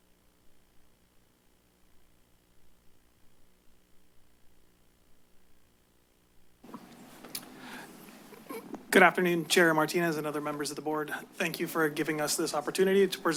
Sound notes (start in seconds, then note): 2.2 silence; 7.2 clicks tongue